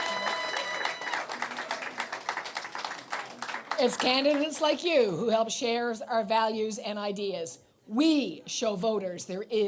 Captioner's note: applause